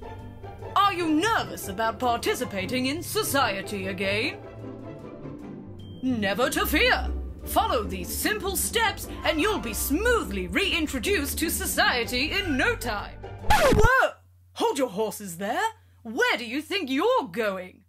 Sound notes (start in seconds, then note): 13.5 record scratch sound